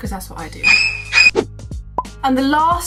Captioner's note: screeching